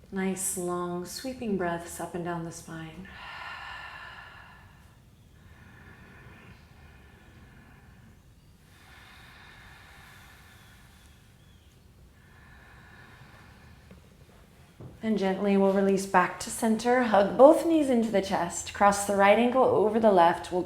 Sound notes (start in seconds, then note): 3.1 deep exhale; 8.2 birds chirping; 8.2 deep breathing